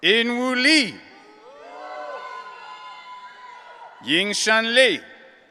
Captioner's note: audience cheering